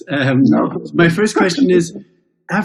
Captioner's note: chuckles